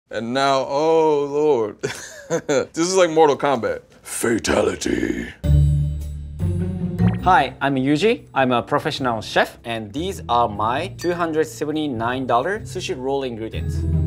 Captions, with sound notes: - And now, oh Lord! [laughs] This is like "Mortal Kombat." Fatality! [playful music] - Hi, I'm Yuji, I'm a professional chef and these are my $279 sushi roll ingredients.